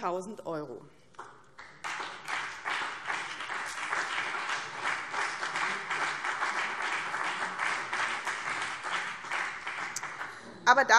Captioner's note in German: Beifall BÜNDNIS 90/DIE GRÜNEN und vereinzelt CDU